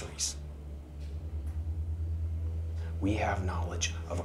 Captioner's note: crickets chirping; tense music